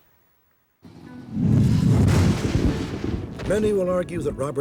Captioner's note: thunder